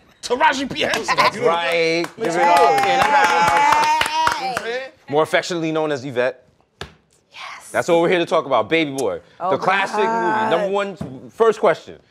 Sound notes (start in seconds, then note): 3.6 applause; 6.2 whispering